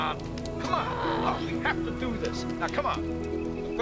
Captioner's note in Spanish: Aruna gruñe